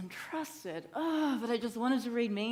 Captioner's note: sighs heavily